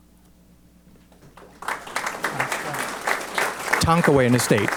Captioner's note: applause